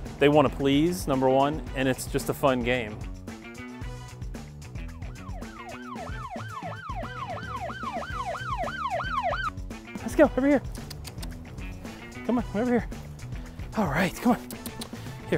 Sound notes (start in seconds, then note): 4.8 upbeat music; 5.0 siren blaring